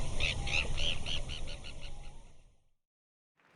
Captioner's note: bird tweeting